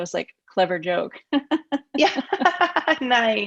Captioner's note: laughs